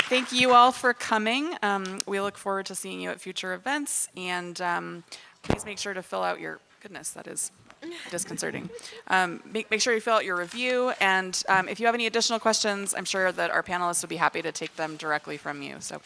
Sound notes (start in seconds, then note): 5.4 audio equipment thuds